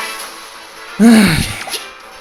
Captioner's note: sigh